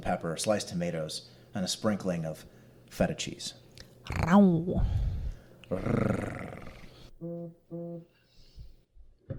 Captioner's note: meowing and purring from Dani and Will